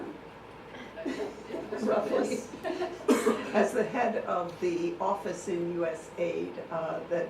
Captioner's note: laughing